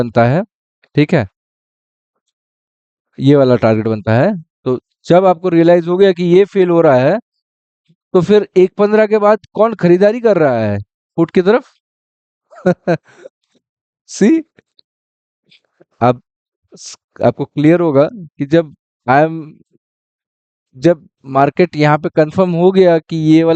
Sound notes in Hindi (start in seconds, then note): 12.5 हंसी